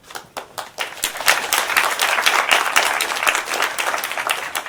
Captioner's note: audience applauding